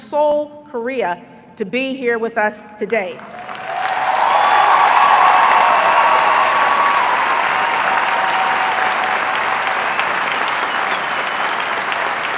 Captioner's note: applause